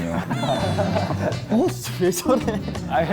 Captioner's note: cracking up